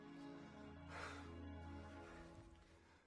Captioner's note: sighing